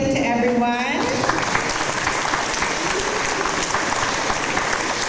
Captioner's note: audience applause